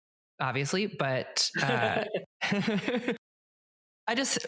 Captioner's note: both laugh